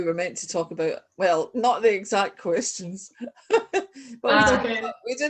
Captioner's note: laugh